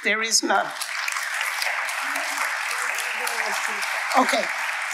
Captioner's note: audience applauding